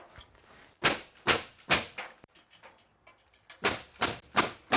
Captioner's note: nail gun thudding